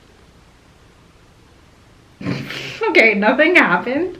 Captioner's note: laughing